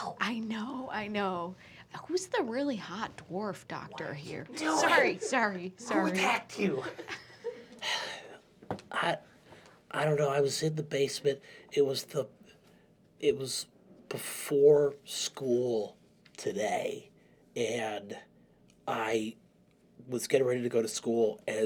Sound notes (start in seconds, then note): 4.4 whispers; 6.2 quietly; 7.4 sighs; 8.9 nasally